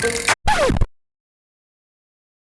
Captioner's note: music scratch